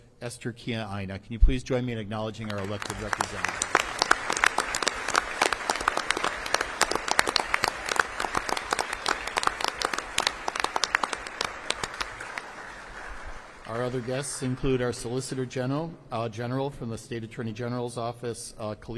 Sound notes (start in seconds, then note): 4.8 applause